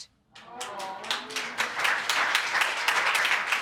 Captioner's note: audience applauding